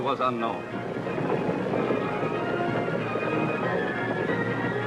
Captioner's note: hooves thudding